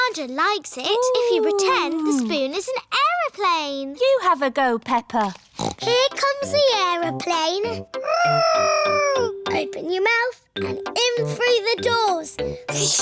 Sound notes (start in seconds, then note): 5.5 snorts; 8.3 imitating aeroplane